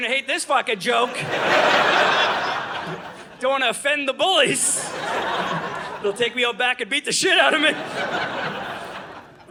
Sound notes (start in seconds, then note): 0.7 audience laughing; 4.5 audience laughing